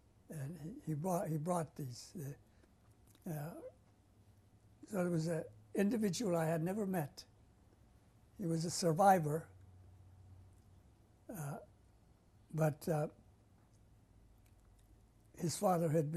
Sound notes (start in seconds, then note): 2.1 pauses for 3 seconds; 9.5 pauses for 3 seconds